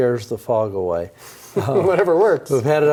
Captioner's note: laughs